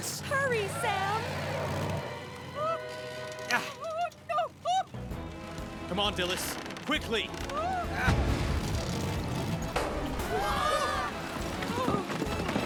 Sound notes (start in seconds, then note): 9.3 engine Roars; 10.5 all Gasp